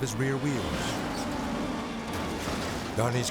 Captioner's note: car thuds